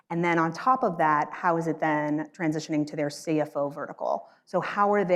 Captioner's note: none